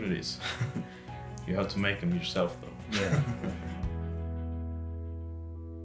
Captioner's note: chuckles